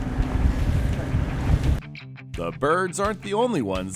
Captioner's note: boat engine running